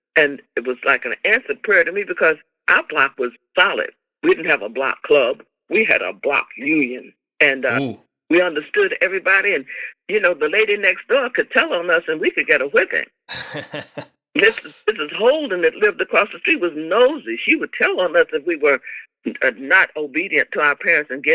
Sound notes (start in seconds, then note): 13.3 laughter